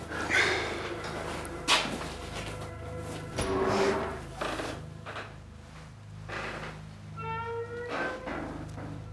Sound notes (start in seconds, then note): 0.1 Bob sighs